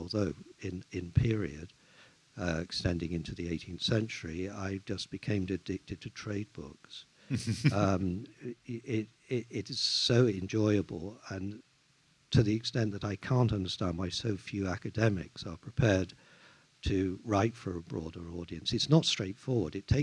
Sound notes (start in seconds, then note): 7.3 chuckles